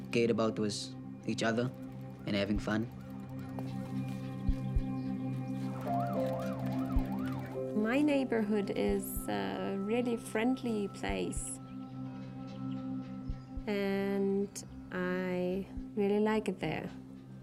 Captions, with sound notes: All we cared about was each other and having fun. (siren wailing) - My neighbourhood is a really friendly place. And... I... really like it there.